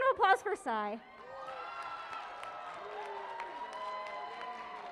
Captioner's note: cheering and applause